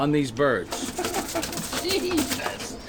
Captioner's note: wings rustling; laughing